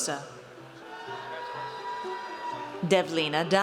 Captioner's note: audience cheers